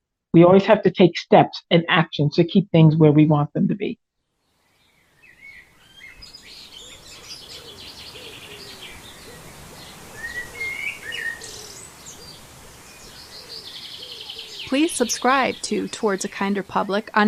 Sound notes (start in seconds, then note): 4.4 sound of birds in a city park fade in to background for 10 seconds